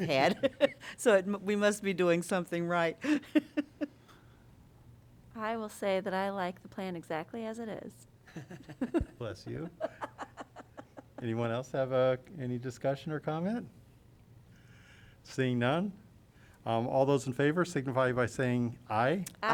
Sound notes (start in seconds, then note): 0.0 laughter; 3.0 laughter; 8.3 laughter